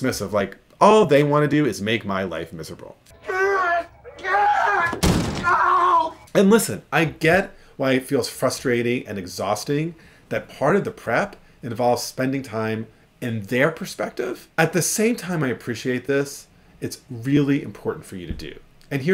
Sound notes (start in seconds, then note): 3.1 man yelling; 4.9 fist punching